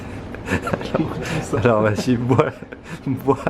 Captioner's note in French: rire